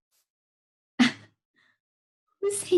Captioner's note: laughing